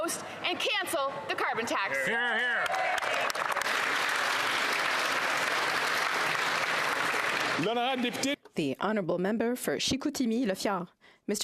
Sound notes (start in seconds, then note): 6.7 some Applause